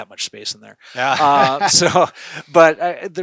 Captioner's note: laughing